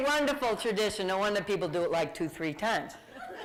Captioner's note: laughter